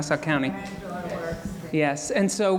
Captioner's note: audience talking